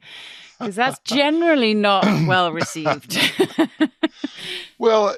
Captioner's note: chuckles